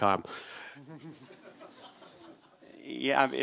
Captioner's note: audience laughs